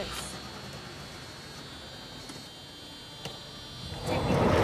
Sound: engine turns over

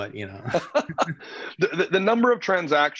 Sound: laughs

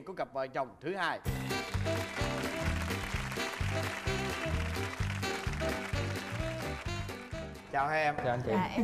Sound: applause

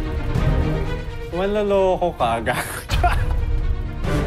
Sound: laughs; stirring music continues

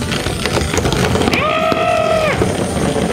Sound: mom screams; truck rumbles on the track

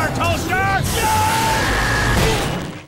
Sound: screaming

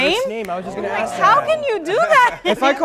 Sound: group talking

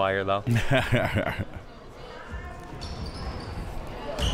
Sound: laughing

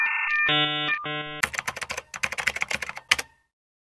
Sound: AOL sounds; keyboard typing

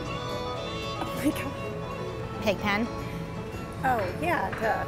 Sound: speaking away from mic

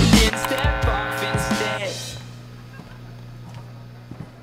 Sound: speaker buzzing

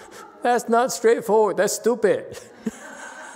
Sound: laughs, audience laughs

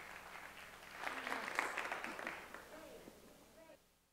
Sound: applause

